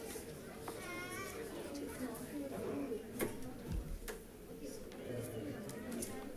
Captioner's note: audience chattering continues